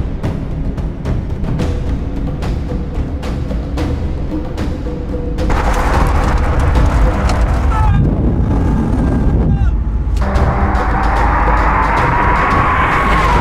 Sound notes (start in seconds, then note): 7.9 yelling; 9.8 engines revving